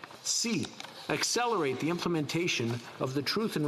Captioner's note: speaking French